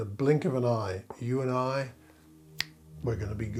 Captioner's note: fingers snapping